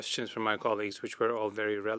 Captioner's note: speaking French